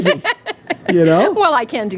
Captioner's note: laughing